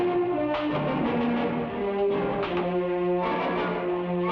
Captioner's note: vague banging